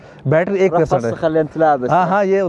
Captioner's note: Arabic